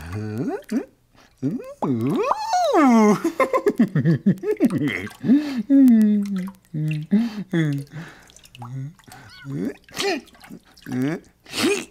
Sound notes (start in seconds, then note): 2.1 giggling